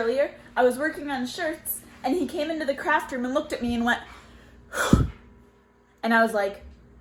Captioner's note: heavy exhale